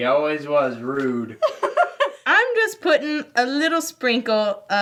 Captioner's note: laughs